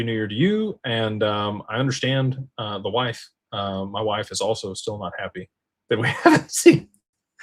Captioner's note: laughter